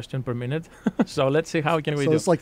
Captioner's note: laughs